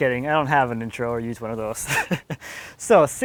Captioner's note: laughs